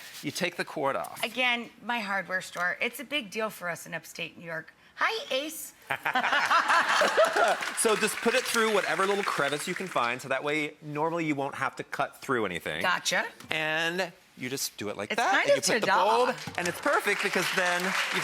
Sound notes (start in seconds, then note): 5.9 all laughing; 6.3 audience applauding; 16.2 audience applauding